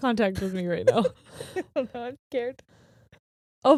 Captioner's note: laughing